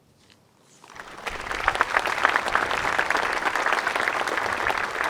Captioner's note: crowd applauds